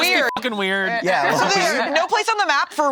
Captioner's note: beep